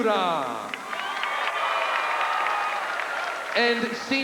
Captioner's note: crowd cheering